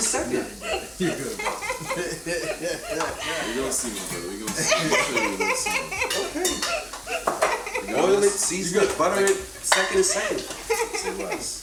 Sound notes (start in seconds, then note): 0.3 chuckling; 5.5 kitchen tools clanging